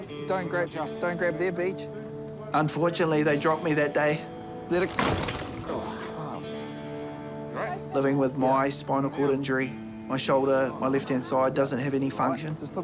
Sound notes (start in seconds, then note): 4.8 thud!; 5.7 groans